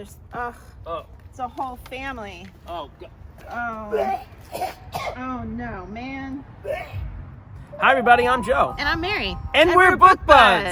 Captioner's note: vomit sounds